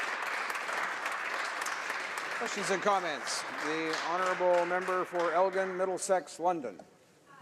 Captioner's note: some applause